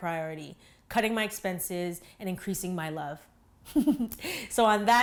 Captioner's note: laughs